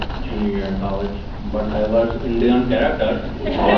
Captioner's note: Indian accent; laughs